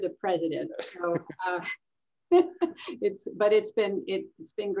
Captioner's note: laughter